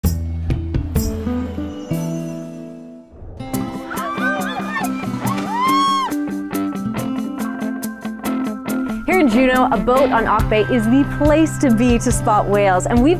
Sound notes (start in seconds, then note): 0.3 gentle music; 3.6 people yelling; 6.5 gentle music